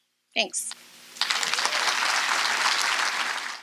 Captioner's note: audience applause